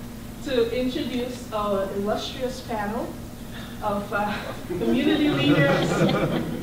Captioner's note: laughter